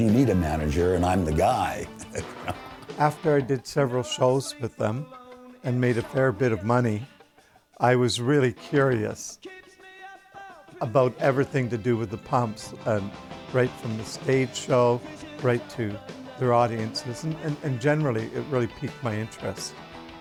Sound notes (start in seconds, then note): 1.8 laughing